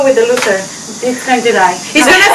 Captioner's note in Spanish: risas